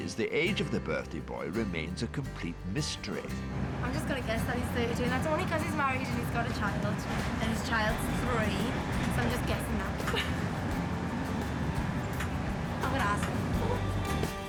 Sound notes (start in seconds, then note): 9.8 laughing